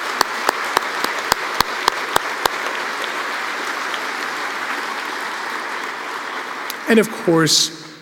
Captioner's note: applause